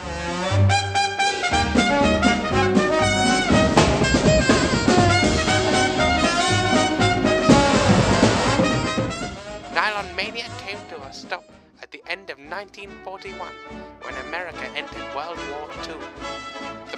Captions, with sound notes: [raucous tooting] Nylon mania came to a stop at the end of 1941 when the USA entered WWII.